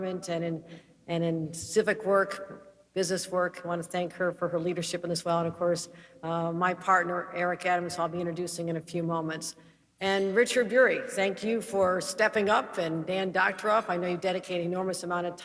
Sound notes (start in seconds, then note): none